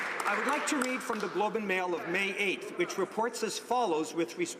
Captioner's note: applause